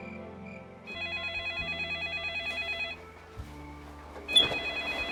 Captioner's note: phone ringing